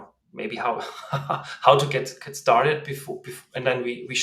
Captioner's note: laughs